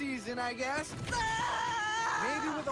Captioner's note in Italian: urla